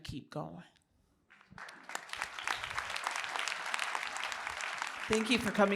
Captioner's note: applause